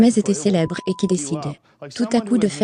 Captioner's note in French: beep